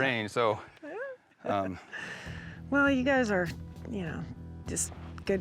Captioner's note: laughter